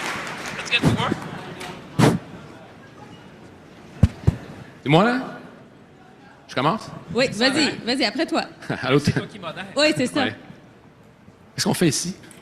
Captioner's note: cheering and Applause